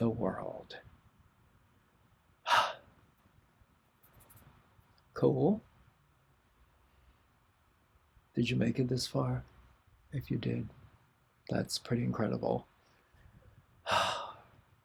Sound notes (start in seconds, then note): 2.4 sigh; 13.8 sigh